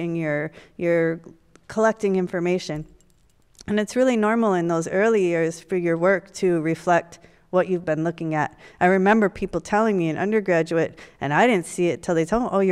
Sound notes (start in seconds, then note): none